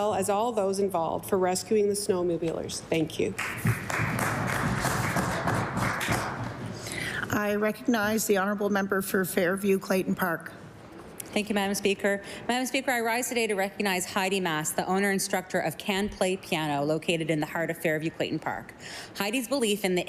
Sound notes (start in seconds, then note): 7.0 applause